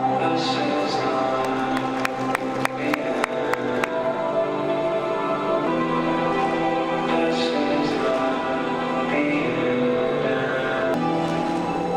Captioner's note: crowd cheering